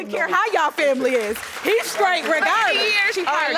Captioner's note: audience clapping